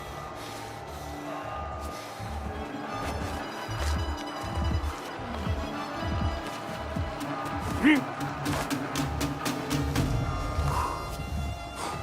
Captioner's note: applause